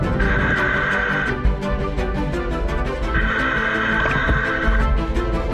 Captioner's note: breathing through gear